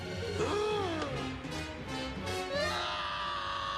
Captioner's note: gasps